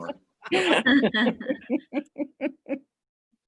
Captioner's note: laughing